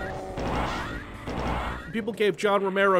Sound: plasma gun sounds

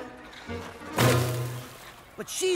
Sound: crashes, crumbles

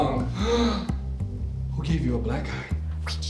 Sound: gasps

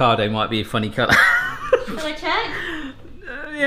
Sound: laughing

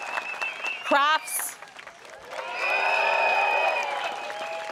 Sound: crowd cheers

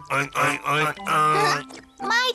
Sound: pigs oinking; giggles

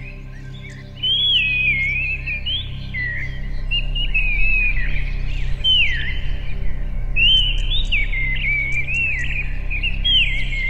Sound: birdsong

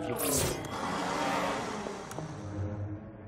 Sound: growling

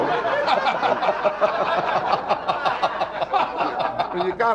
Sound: audience laughing

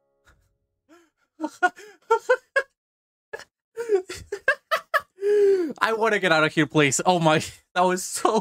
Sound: going insane laughter

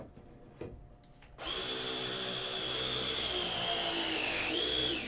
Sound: electric wrench whirs

